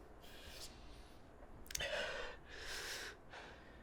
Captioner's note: sniffling